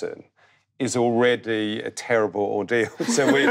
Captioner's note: group laughing